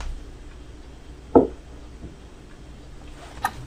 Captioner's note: thunk